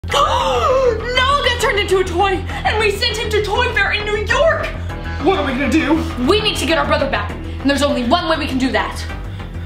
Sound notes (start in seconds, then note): 0.3 gasps